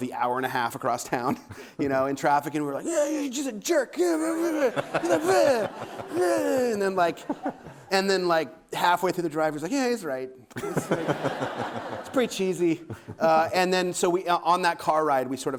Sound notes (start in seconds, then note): 4.1 grunting